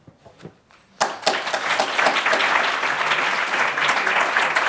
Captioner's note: audience applauding